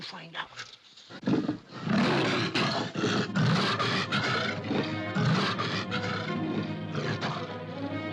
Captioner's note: panther roars and snarls; dramatic music